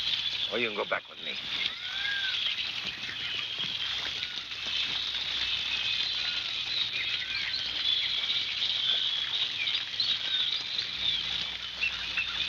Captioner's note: birds chirping